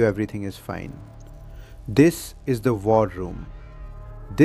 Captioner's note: shouting